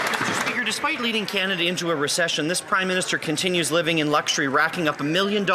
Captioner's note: some Applause